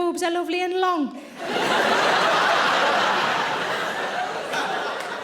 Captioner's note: audience laughing